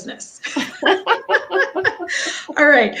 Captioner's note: laughing